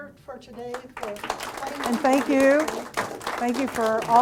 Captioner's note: audience applauding